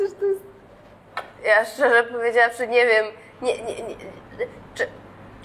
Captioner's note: laughs; stutters